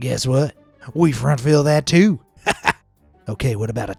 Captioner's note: chuckles